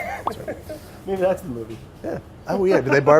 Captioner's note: laughing